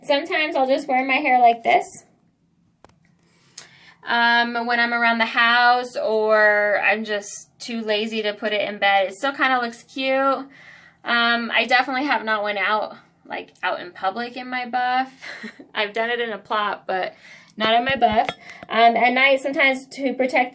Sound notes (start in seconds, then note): 15.8 laugh